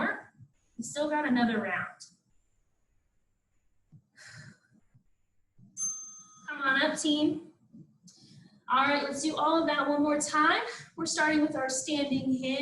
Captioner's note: ding